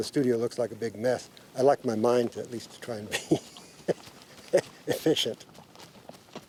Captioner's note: chuckles